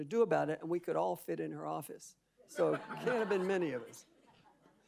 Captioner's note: audience laughing